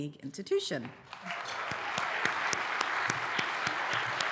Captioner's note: applause